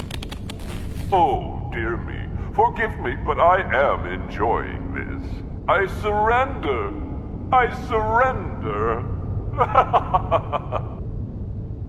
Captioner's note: laughing